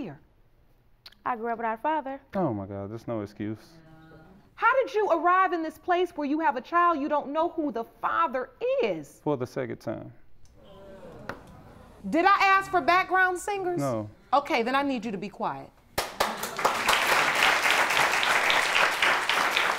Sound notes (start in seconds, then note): 8.3 audience groans; 15.9 applause